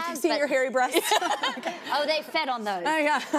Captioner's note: laughs